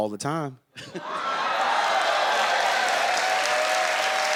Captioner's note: audience cheers